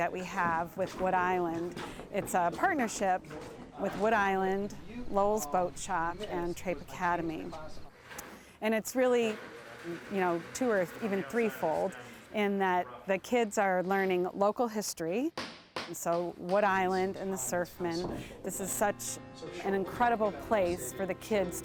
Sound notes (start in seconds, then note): 15.4 hammering